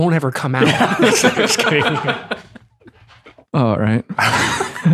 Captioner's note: all laugh